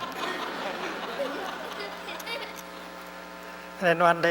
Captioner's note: laughter